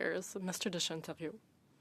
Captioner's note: speaking French